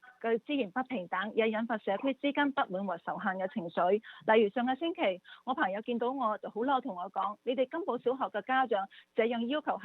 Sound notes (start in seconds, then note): 3.6 speaks non-English language